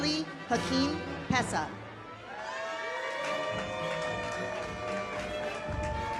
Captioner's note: audience applauds